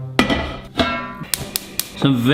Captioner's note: pot clangs; lid clanks; igniter clicks